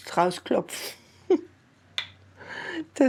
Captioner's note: she laughs happily